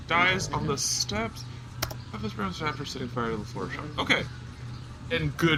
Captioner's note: key clicks